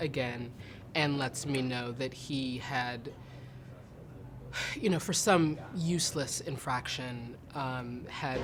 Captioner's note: breathes